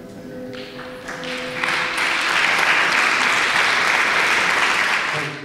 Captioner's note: applause